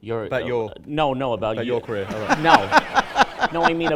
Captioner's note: laughter